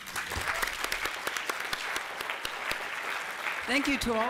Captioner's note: applause